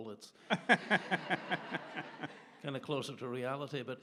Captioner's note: audience laughs